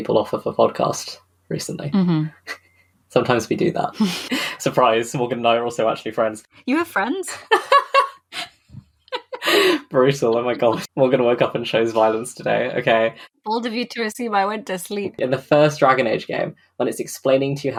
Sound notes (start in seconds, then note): 4.0 laughs; 7.1 laughs; 9.1 laughs